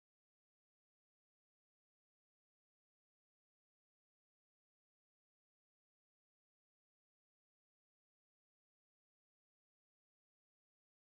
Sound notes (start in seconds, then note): none